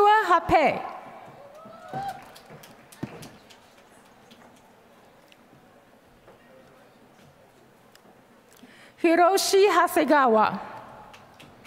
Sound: applause; applause

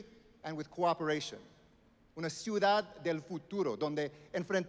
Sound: speaking Spanish

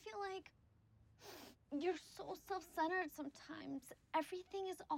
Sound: sniffling

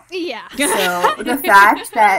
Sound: hosts laugh

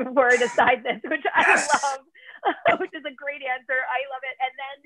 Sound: laughter

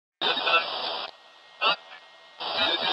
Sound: robot beeping

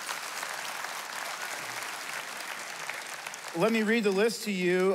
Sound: applause

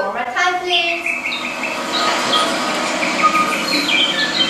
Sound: birds tweeting

